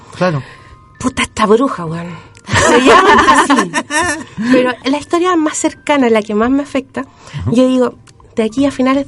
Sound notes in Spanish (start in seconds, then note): 2.5 risas